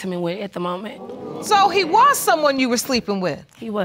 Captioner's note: audience exclaiming